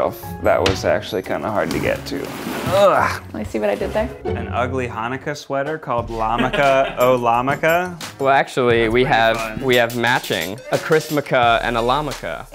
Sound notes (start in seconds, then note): 2.7 groaning